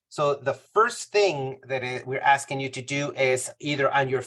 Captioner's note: none